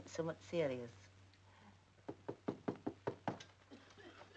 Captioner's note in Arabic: طرق الباب